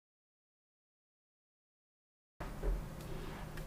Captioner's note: silence